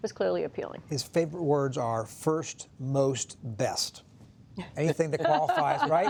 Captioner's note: laughter